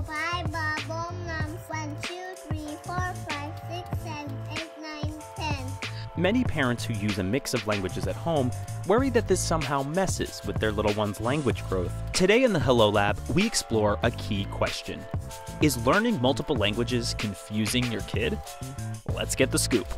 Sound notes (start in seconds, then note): 0.0 speaking other languages; 1.7 speaking English